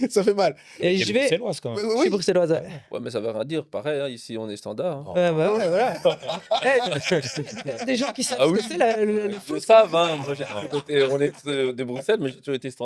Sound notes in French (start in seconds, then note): 7.4 rires